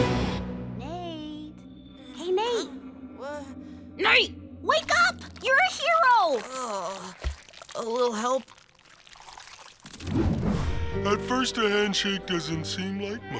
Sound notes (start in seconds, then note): 6.2 groaning